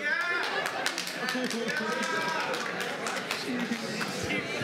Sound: laughter

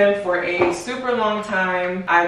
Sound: box clonking

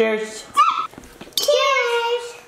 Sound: squeals

